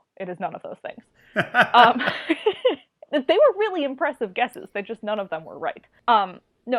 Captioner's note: laughs